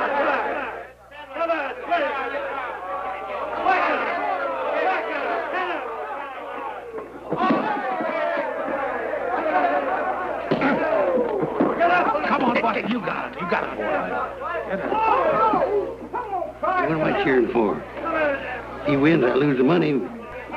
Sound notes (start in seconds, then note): 0.0 cheering; 1.6 shouting